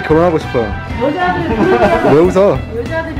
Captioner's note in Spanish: riendose